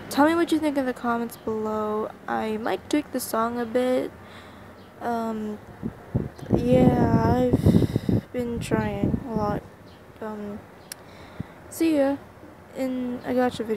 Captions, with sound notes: Tell me what you think in the comments below.. I might tweak the song a bit uhm- *Fan static* yeah I've... been trying.. a lot... uhm- *tsk* *inhale* SEE YA-